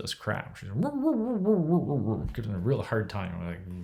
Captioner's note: mimicking dog barking